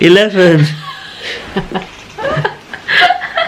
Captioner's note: laughing